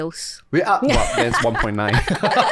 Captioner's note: laughter; laughs